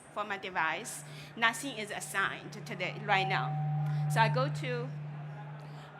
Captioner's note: microphone feedback